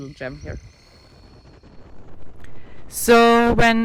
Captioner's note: wind whipping